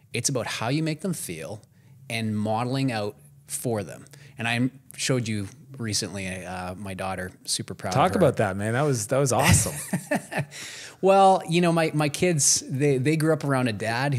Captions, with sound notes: it's about how you make them feel and modelling out for them. And I showed you recently, my daughter super proud of her. - Talk about that man, that was, that was awesome. (laughs) - Well, you know, my kids, they grew up around a dad